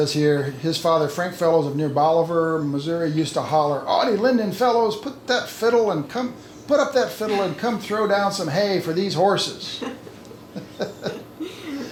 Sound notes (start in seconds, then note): 9.6 laughing